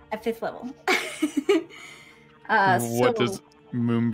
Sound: laughs

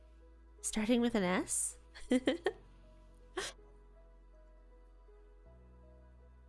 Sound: giggles

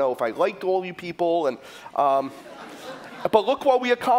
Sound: laughter

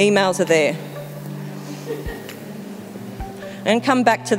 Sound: audience laughing

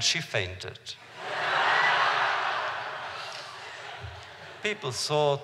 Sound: laughter

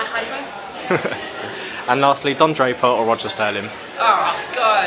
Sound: chuckles

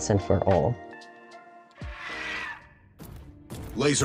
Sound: sad squawk

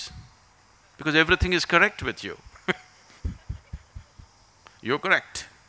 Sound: laughs

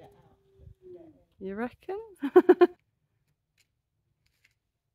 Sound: laughing

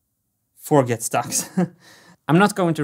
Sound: chuckles

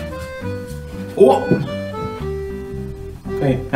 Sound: grunts

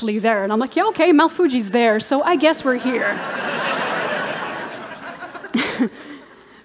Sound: laughter

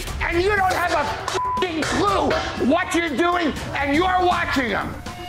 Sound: beep

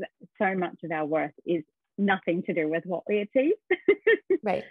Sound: laughs

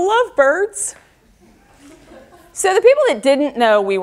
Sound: audience laughter

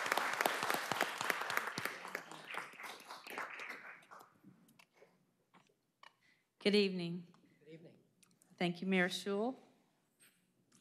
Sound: applause

